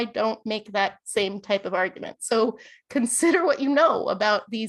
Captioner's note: laughter